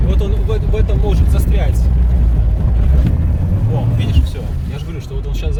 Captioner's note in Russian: Звукмотора